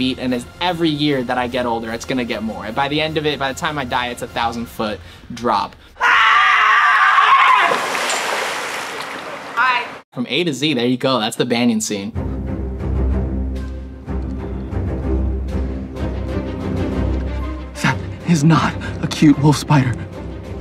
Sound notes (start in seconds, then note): 6.0 screaming; 12.3 dramatic sound